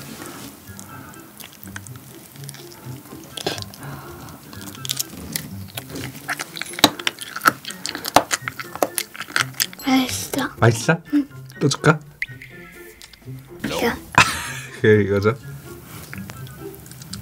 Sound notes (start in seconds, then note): 4.7 chewing